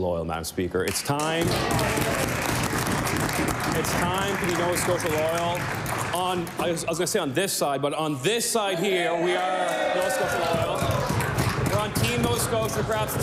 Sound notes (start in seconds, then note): 4.5 applause